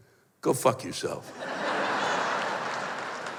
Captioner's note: laughter